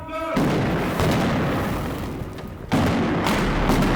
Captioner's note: explosions